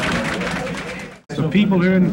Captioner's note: crowd laughs